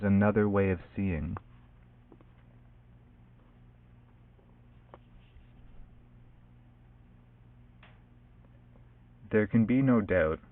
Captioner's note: long silence